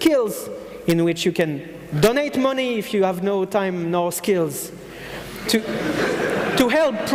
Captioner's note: audience laughing